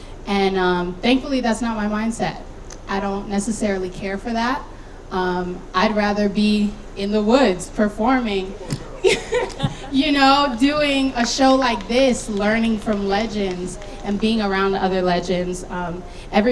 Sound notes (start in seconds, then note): 9.4 laughing